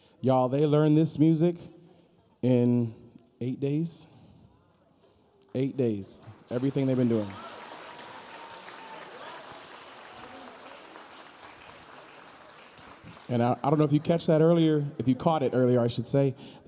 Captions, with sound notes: - Y'all. they learned this music in eight days? Eight days, everything they've been doing. (audience cheering) (audience applauding) And I don't know if you catch that earlier, if you caught it earlier I should say.